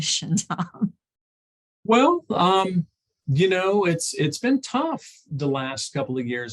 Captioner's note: chuckles